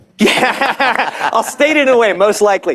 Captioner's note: laughter